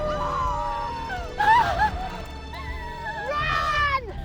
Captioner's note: both cry